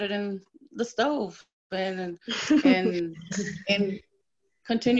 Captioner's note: laughter